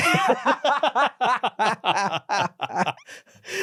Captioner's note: both laughing